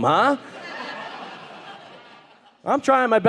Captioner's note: audience laughing